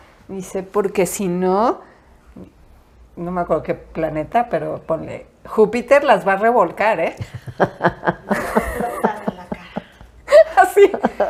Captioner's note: laughs